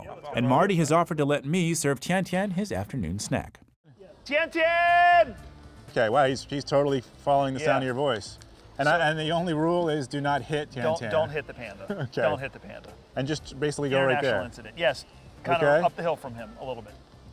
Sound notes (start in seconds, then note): 3.8 shouting; 11.8 laughs